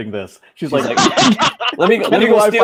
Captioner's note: laughing